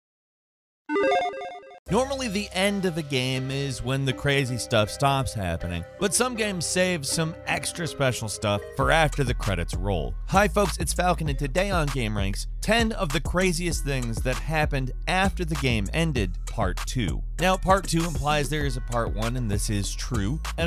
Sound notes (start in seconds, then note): 1.0 logo bleeping